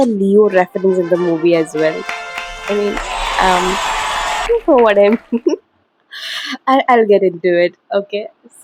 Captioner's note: laughter